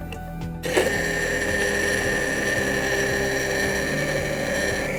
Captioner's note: immersion blender whirring